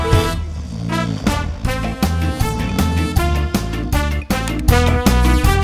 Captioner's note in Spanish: Sonido de ronquido; Sonido de pajaritos; Música alegre